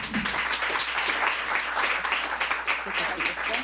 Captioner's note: applause